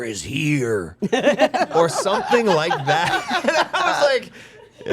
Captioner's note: others laughing